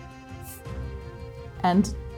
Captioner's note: scoffing